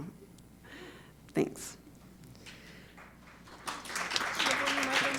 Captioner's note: audience applauding